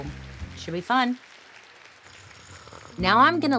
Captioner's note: slurps